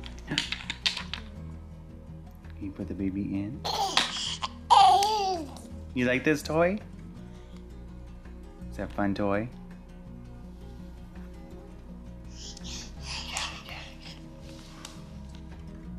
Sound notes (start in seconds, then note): 3.6 baby giggling; 7.7 soft music; 10.9 soft music; 14.4 soft music